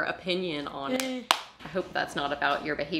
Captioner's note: clapping